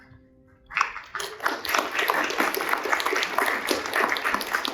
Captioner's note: crowd applause